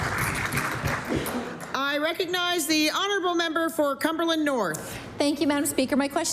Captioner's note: applause